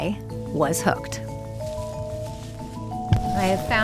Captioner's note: leaves rustling